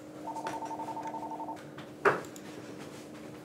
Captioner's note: phone rings